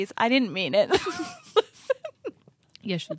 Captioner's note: laughs